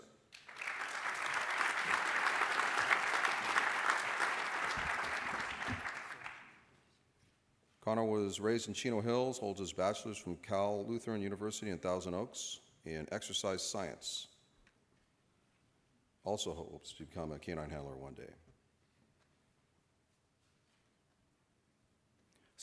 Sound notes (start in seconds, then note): 0.3 applause